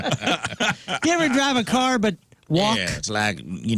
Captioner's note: laughing